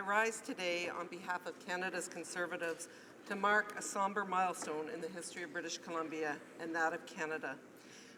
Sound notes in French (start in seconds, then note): 3.3 voix de l'interprte